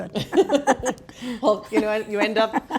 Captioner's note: laughing